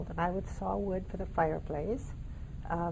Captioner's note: none